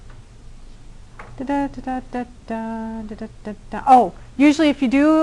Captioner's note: humming